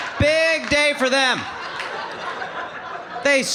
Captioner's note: audience laughing